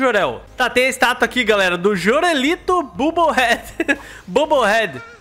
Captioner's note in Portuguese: risos